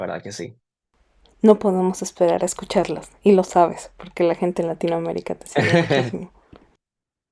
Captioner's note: laughter